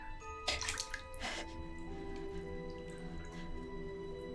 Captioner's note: gasps